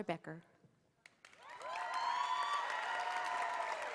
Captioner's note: applause